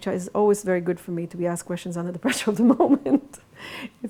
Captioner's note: laughs